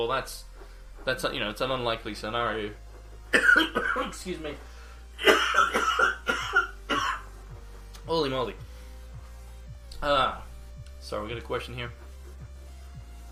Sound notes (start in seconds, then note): 3.3 coughs